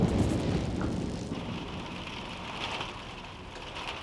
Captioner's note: rain tapping